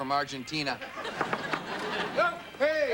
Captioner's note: knock knock